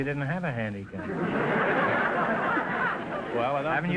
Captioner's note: audience laughter